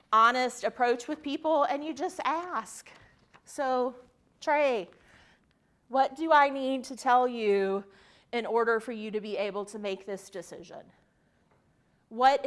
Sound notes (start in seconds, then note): none